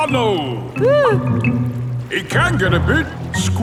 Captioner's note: whimpers